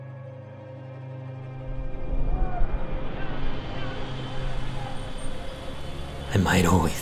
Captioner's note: city ambience